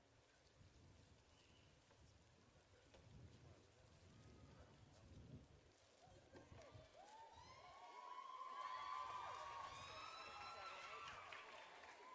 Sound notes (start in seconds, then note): 8.0 audience cheering